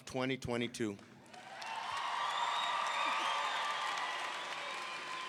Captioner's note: audience cheering